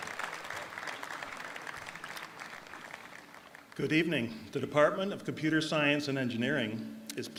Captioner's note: applause